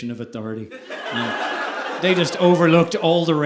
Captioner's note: audience laughing